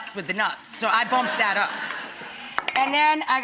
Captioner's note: laughter